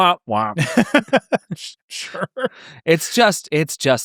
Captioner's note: laughing